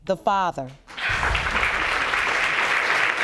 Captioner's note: audience applauding